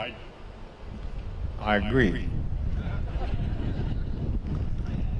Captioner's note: laughter